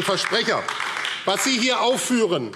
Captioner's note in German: Beifall AfD